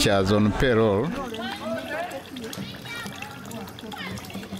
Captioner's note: water splashing